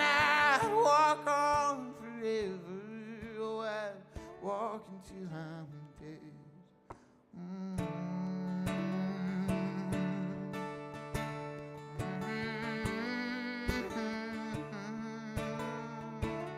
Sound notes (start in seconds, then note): 7.3 hums with guitar